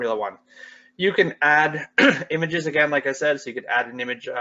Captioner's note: coughs